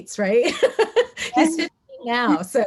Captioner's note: laughs